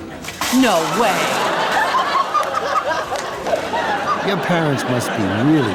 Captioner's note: audience laughing